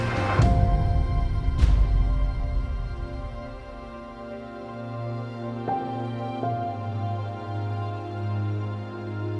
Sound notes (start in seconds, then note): 0.0 dramatic thud; 5.3 emotional music